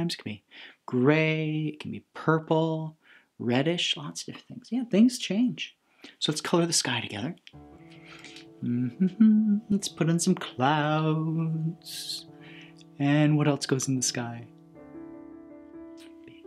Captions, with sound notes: It can be gray. It can be purple. Reddish. Lots of things. Yeah. Things change. So, let's color the sky together. (humming) Let's put in some clouds. And what else goes in the sky? (soft piano music)